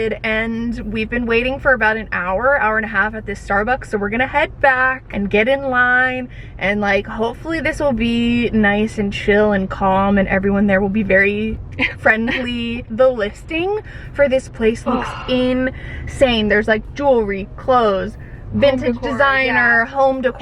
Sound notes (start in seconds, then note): 11.8 chuckling; 14.8 gasping